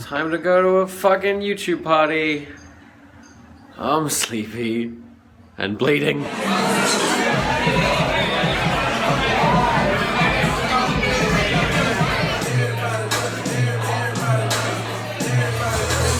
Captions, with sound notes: It's time to go to a fucking YouTube party. I'm sleepy and bleeding. (crowd chatters loudly) (chill club music)